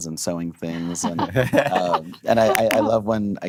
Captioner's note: laughing